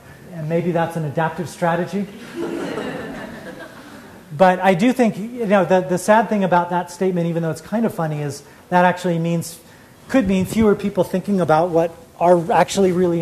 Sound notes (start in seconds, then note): 2.1 laughter